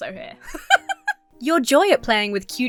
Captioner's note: laughs